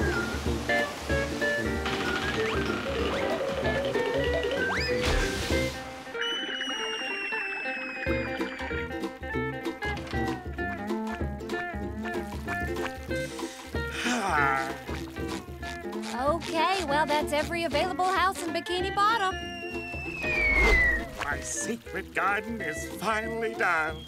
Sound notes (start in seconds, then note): 13.8 sighing